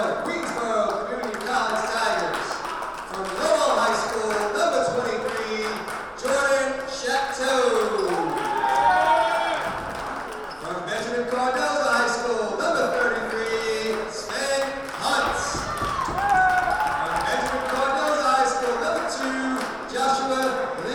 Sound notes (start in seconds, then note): 7.4 crowd applauding and cheering; 16.2 crowd applauding and cheering